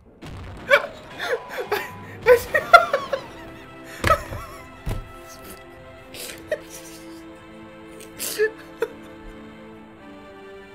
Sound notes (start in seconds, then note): 0.3 laughing; 6.0 sputtering laughter